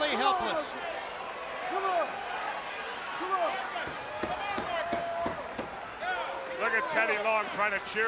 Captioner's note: crowd chatter